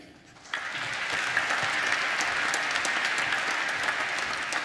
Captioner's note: applause